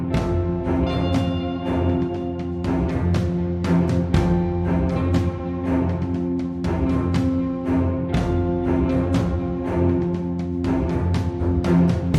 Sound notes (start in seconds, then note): none